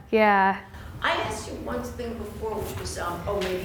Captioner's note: voiceover